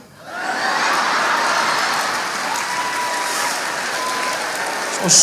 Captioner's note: laughter